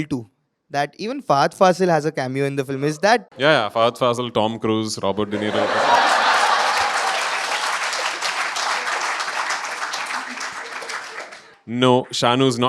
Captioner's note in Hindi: तालियाँ